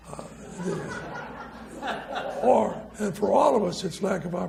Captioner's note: audience laughs